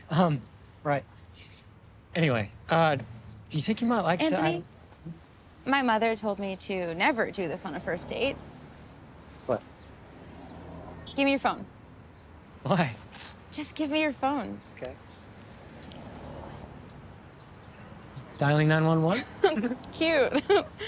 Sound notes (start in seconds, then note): 19.1 Zoe laughs